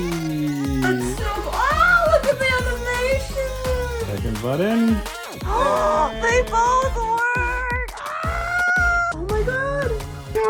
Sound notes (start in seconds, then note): 5.0 gasps; 8.3 crow shrieks